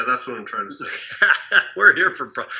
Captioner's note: laughing